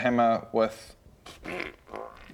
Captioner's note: pfft